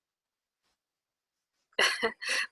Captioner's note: laughs